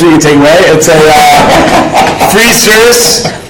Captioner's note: panel laughing